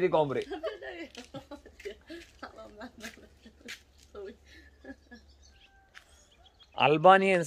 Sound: giggles

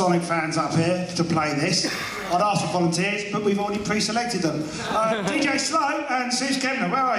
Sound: laughter

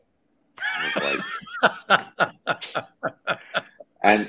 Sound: laughing

